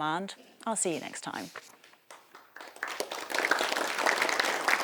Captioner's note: applause